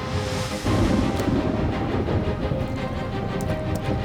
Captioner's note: thunder rumbling